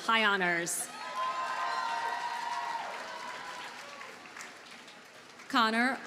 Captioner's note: audience cheers and applauds